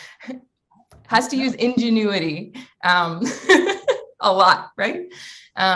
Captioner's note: laughs